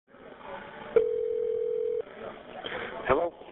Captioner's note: phone ringing